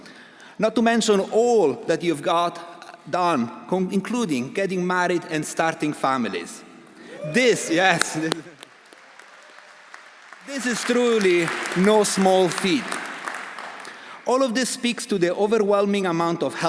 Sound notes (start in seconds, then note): 8.9 audience applauding; 8.9 audience cheering